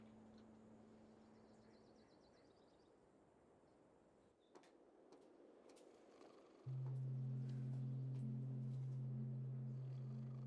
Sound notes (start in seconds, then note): 3.7 snoring